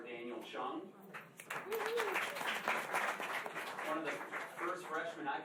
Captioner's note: applause